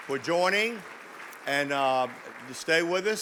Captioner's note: audience clapping